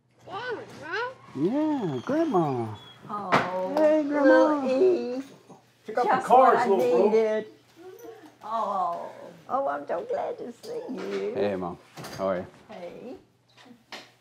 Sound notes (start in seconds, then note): 0.8 child babbling